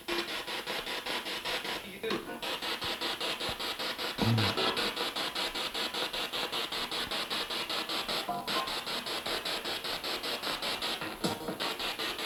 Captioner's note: sound of the Spirit Box in the background